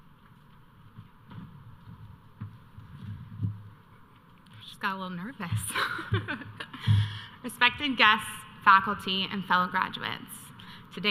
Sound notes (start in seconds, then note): 6.8 laughs